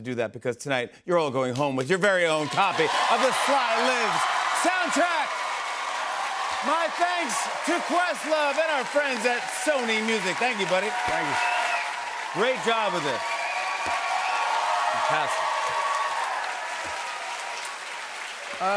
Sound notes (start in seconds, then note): 13.5 cheers and applause